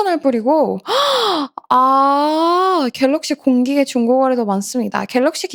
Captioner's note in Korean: 헉 소리